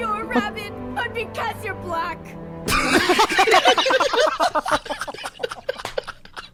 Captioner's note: everyone laughing